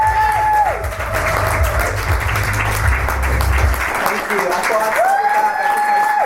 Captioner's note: audience cheers and applauds